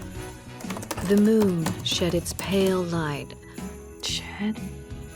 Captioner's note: typing